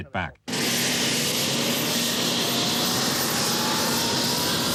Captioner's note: plane engine roaring